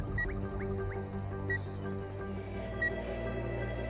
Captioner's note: slow bleeping